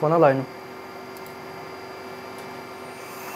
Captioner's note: the machine hums quietly